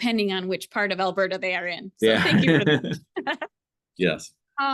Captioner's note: laughter